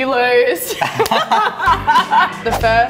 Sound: laughing

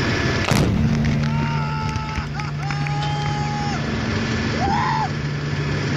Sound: explosion; cries of joy

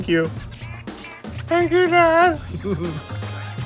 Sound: high-pitched voice; chuckling

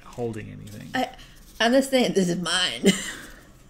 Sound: laugh

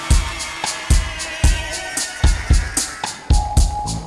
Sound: screech; sonar ping

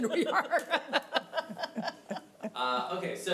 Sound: laughing

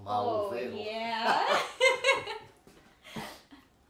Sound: both laughing

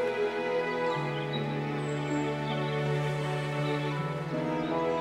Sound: birds chirping

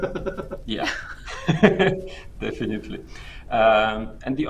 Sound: laughs

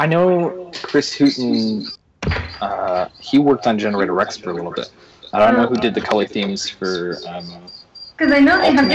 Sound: feedback noise

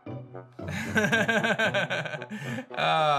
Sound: giggles

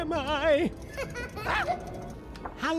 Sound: Narcissistic Luna laughs

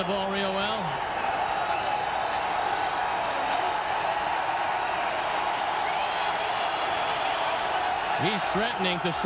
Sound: crowd cheering

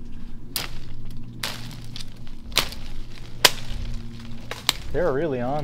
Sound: slapping sounds

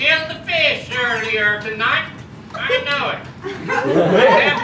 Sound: weird voice

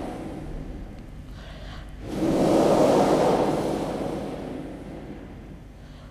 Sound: shri mataji blows into the microphone; shri mataji blows into the microphone

